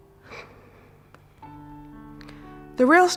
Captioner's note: light exhalation